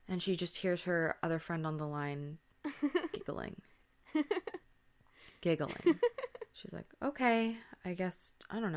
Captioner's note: girl giggling sound